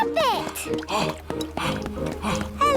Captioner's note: panting